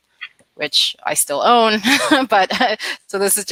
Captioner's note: laughs